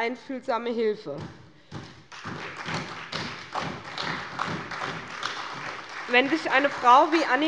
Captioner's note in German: Beifall bei der SPD